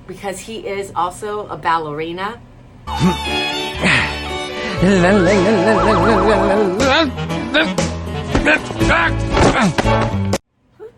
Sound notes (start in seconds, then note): 2.8 classical music; 4.7 humming; 6.0 silly music; 7.4 grunting; 8.2 thudding